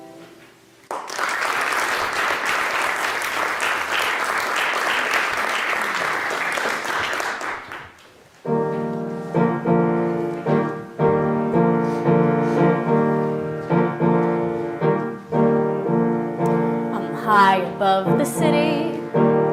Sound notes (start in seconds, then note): 0.8 applause